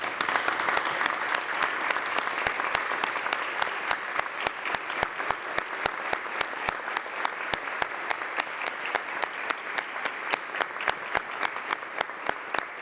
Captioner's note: applause